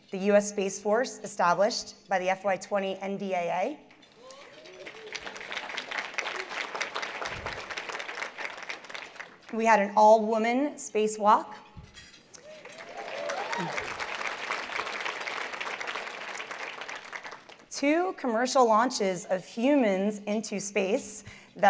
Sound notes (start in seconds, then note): 4.2 applause; 12.4 cheers and applause